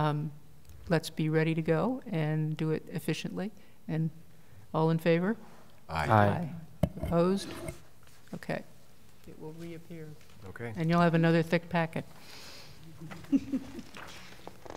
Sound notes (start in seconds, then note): 5.7 multiple voices; 13.0 laughter